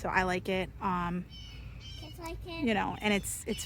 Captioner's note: bird calls